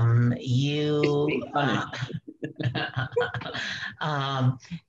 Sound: laughs

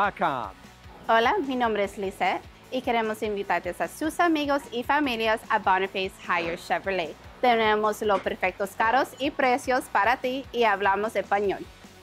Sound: Spanish

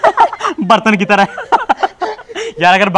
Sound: laughing

